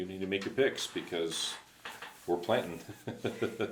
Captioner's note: laughs